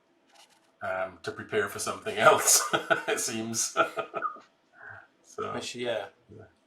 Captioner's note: laughs